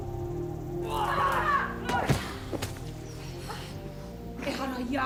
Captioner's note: woman yells; speaking in a foreign language